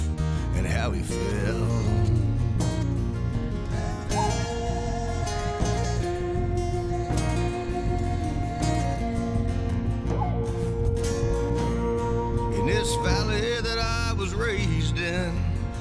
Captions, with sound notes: and how he fell. [Tribe vocalizing] In this valley that I was raised in